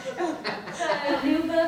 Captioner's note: both laugh